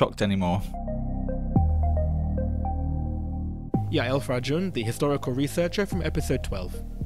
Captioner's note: voiceover